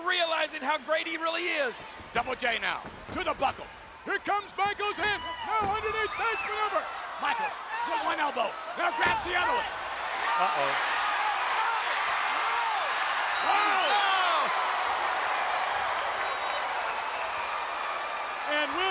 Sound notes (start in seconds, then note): 11.3 audience cheering; 14.6 audience groans